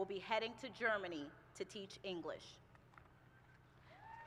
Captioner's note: applause